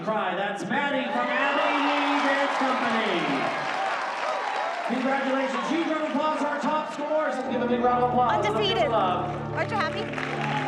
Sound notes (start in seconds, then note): 3.3 applause